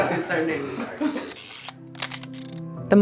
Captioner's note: people laughing; film reeling